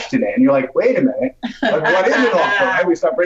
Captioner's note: laughs